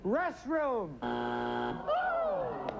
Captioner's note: buzzer